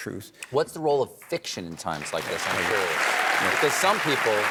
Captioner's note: applause